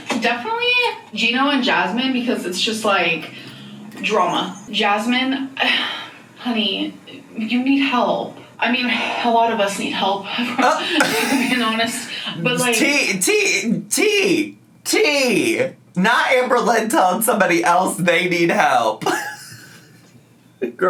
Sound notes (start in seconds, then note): 5.6 sighs; 11.0 laughs; 19.0 laughs